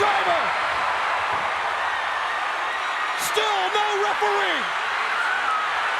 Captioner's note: applause